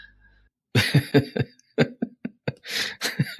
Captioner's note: laughing